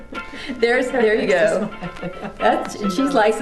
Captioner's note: laughing